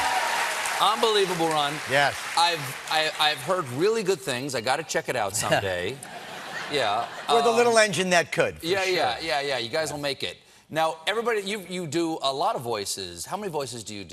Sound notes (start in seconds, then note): 2.5 applause